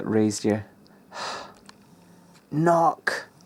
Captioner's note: exasperated sigh